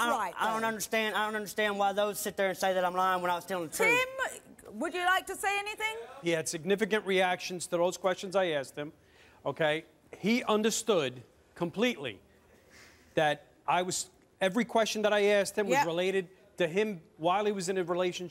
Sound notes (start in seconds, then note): none